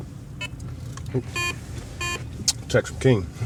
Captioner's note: beeping